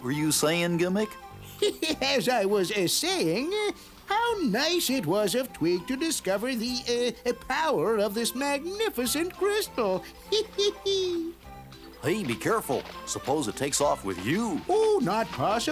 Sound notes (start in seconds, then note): 1.4 laughs; 9.7 laughs